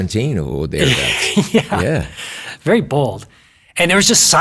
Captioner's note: laughs